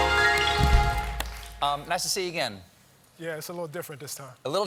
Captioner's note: cheers and applause